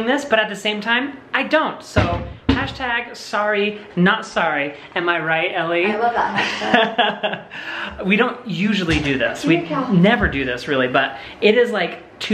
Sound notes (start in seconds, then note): 5.9 laughing